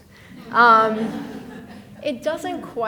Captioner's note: people laughing